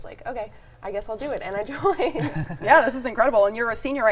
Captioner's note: chuckles